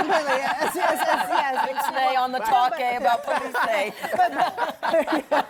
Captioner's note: laughter